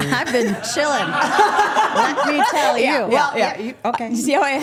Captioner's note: group laughing